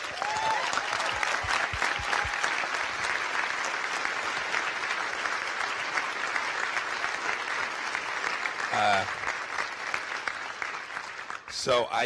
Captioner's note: applause and cheers